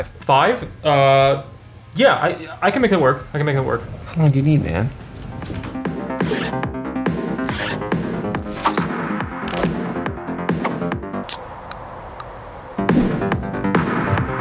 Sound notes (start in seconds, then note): 5.8 energetic music; 6.2 zipper zipping; 7.4 velcro scraping; 8.4 plastic cranking; 8.4 air whooshing; 9.4 can popping; 10.2 air whooshing